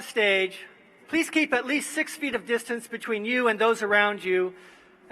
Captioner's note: none